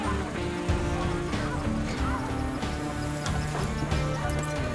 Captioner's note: women coughing